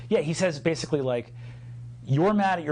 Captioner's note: none